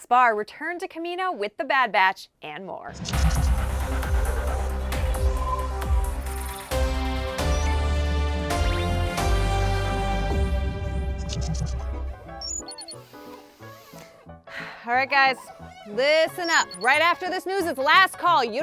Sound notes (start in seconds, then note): 3.0 dramatic music; 14.4 sighs